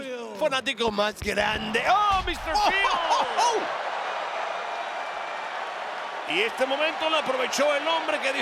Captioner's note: laugh